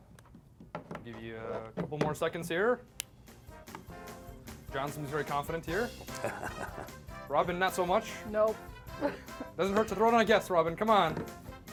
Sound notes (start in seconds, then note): 6.0 laughs